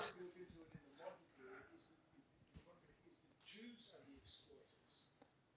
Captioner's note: speaking faintly